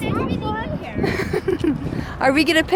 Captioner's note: chuckles